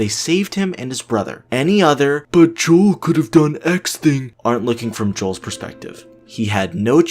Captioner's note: dumb voice